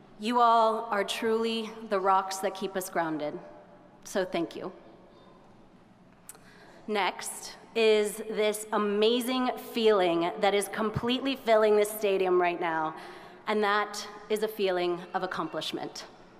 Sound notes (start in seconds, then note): none